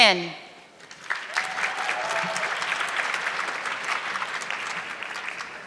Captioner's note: audience clapping